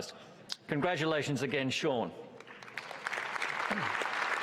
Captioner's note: applause